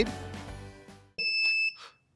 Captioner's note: beeping